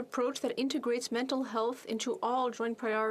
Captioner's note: speaking French